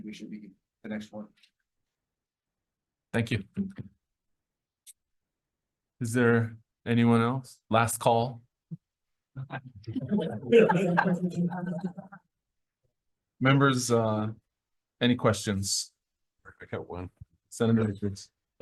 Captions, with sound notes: we should be the next one. - Thank you. Is there anyone else? Last call. (all laughing) Members, any questions? - I got one. - Senator Richards.